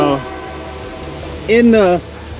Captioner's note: train horn blowing